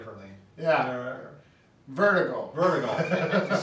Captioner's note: laughs